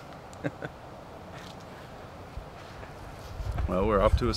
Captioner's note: Josh chuckling